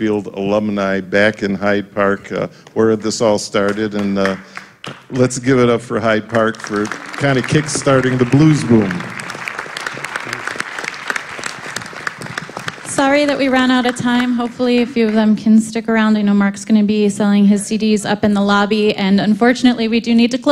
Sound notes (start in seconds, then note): 11.5 applause